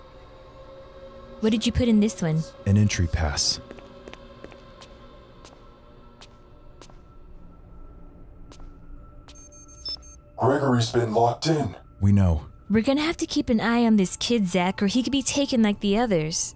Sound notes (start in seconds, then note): 3.5 footsteps tapping; 9.3 beeping